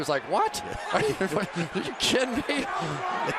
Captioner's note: laughter